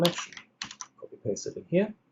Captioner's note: keyboard clicks